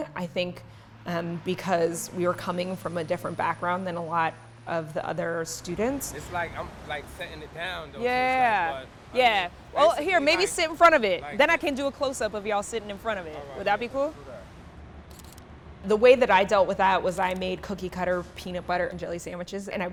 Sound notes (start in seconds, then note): 15.1 camera shutter clicks